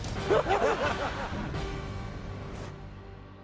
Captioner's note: laughs